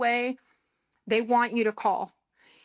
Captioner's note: none